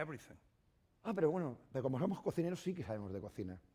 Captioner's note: speaking spanish